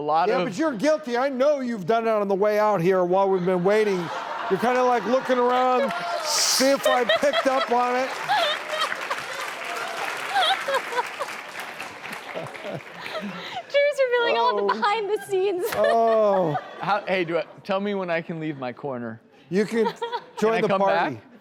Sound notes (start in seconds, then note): 8.3 laughing; 9.6 clapping